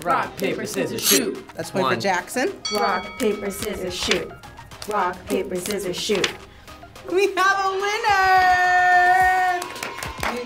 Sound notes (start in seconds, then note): 0.7 scissor swishes; 4.3 paper rustles; 6.0 paper rustles; 9.3 crowd cheers